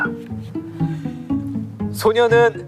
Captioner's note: hahaha